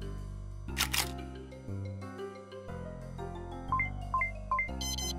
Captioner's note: shutter clicks; camera beeping